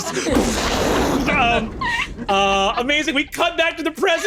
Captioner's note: vocalizes an explosion